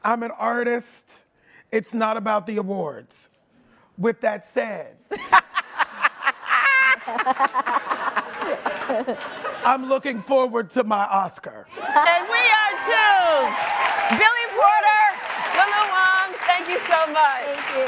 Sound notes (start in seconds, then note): 5.2 laughing; 11.8 audience cheers and applauds